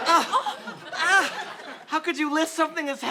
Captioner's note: grunts